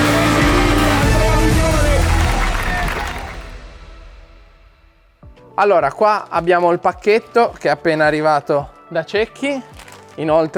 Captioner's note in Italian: Applauso